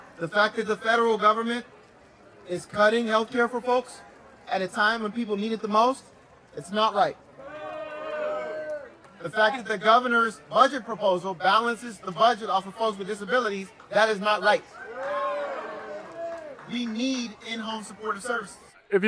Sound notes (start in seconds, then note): 0.0 crowd voice; 7.4 crowd booing